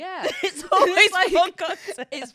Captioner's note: both laughing